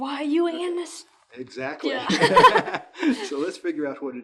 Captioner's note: laughs